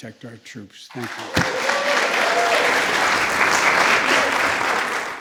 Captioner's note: applause